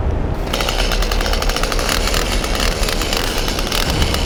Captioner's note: chainsaw whirring